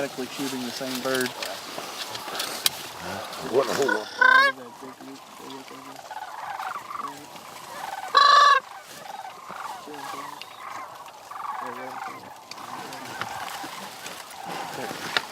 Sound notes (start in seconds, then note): 2.2 crane CALLS